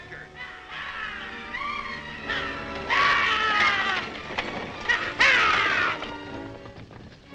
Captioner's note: horses galloping; guards shouting; horses galloping